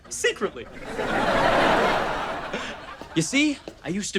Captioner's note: audience laughter